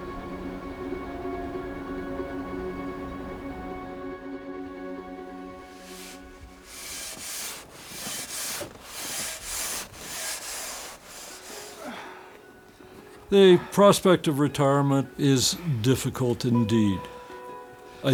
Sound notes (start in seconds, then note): 0.2 somber music; 5.6 saw swishing; 11.5 gentle music; 11.5 groans